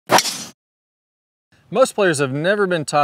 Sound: ball whooshes

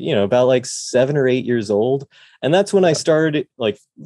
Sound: none

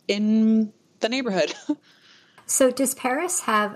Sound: laughs

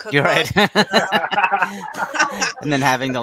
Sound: everyone laughing

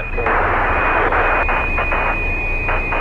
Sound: static crackling

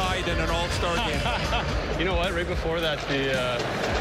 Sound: laughter

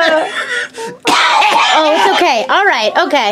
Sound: coughs

